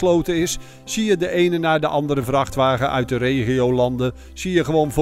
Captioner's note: voiceover